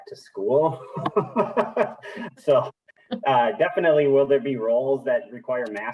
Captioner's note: laughs